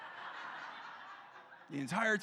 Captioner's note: congregation laughing